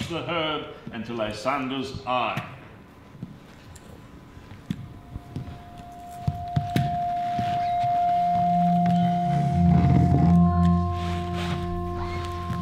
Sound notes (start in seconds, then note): 6.5 glassy metallic sounds